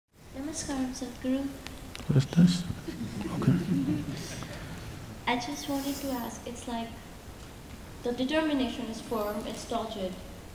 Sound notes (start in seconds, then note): 2.7 laughter